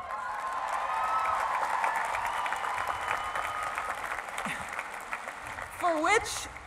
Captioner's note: applause